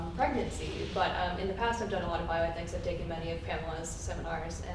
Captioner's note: murmurs